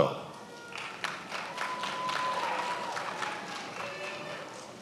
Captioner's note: attendees applauding